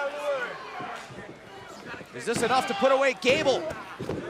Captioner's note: crowd chatter